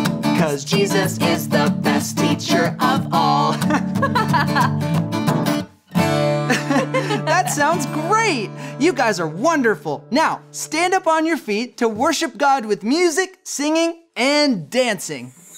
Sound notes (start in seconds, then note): 3.5 laughing; 5.1 guitar music playing